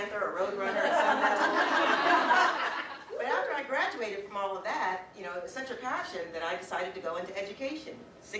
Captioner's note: audience: Laughter